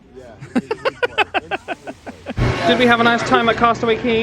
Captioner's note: laughing